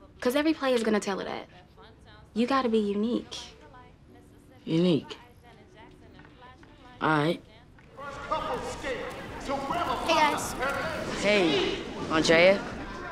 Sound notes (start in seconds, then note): 8.3 announcer speaking in background